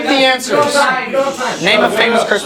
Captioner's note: arguing